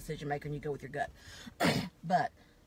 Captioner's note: coughs